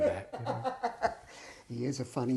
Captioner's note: laughing